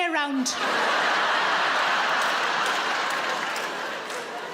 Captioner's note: audience laughs